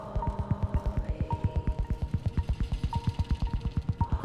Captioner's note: woman whispering